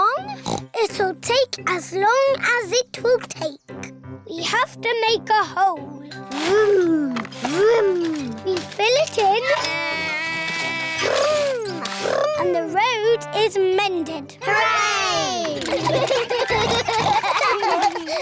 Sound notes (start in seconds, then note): 0.3 oinks; 9.6 edmond elephant makes beeping sounds; 15.6 all laugh